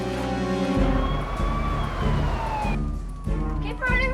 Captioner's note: siren blaring